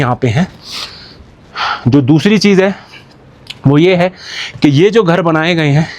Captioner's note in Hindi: नाक से की जाने वाली आवाज़